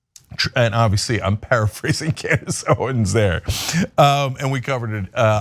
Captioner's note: laugh